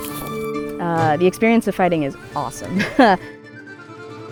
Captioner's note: laughs